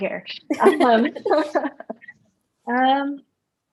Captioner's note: laughter